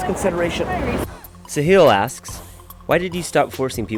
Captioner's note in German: Voice-over